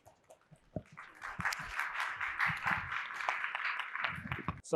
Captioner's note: applause